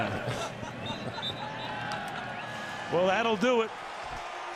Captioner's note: laughter